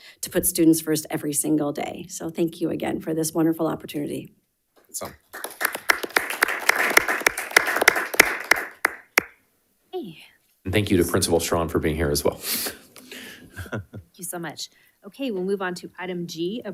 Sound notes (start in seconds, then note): 5.0 people applauding